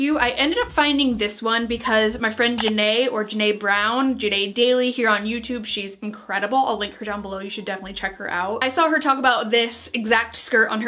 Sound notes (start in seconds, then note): 2.6 clicking